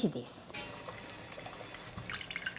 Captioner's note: bubbling